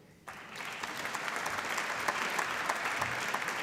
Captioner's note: applause